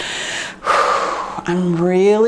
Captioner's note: breathes out